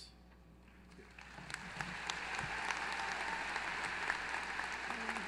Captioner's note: applause